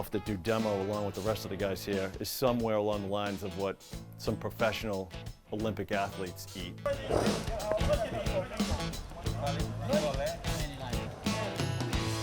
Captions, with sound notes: that do demo along with the rest of the guys here is somewhere along the lines of what some professional Olympic athletes eat. (background chatter)